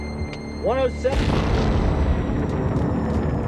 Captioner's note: explosion